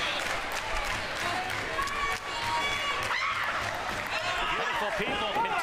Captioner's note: crowd noise